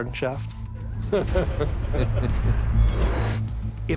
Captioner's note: laughter